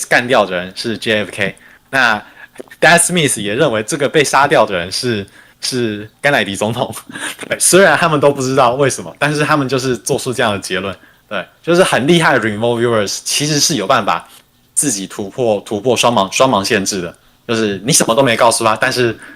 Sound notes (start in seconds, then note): 3.8 non-english speech